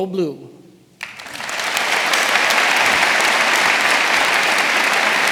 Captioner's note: audience applauding